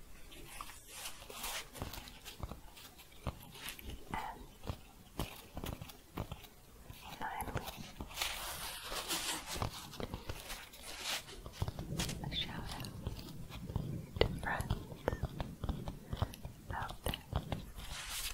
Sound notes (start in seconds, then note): 8.6 shuffling and tapping; 18.0 shuffling